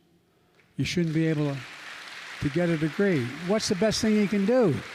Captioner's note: applause